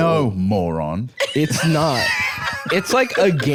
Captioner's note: laughing